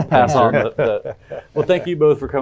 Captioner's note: all laughing